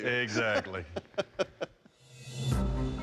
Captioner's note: laughs